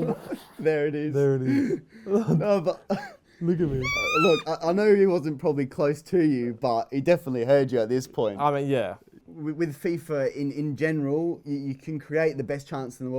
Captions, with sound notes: There it is. There it is. Look at me-- [high-pitched yelling] [chuckles] Look, I know he wasn't probably close to you, but he definitely heard you at this point. I mean, yes. With FIFA in general, you can create the best chance in the world